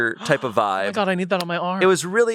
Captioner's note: gasps